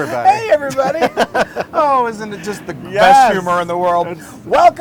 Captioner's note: laugh